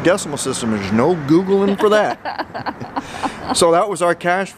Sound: chuckle

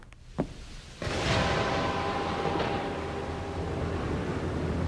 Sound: thunder clap

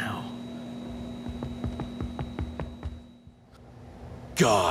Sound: footsteps

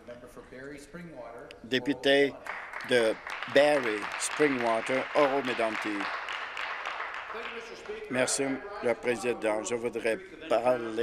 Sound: some applause

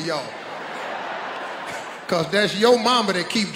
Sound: audience laughing

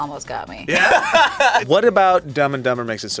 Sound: laughs

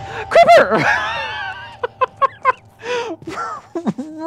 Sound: laughs

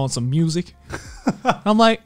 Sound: laughing

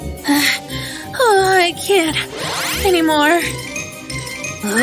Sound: heavy breathing

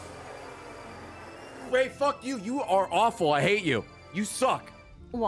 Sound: raspberry noise

